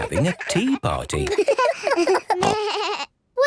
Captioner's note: giggles, snorts